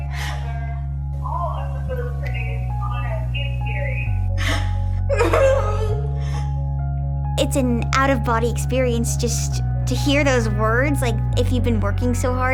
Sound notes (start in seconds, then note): 5.0 cries